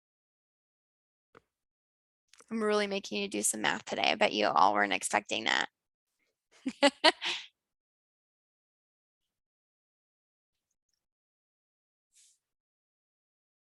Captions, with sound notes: I'm really making you do some math today. I bet you all weren't expecting that. (laughs)